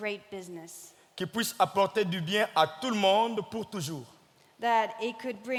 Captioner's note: speaking in French